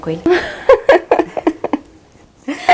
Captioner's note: laughing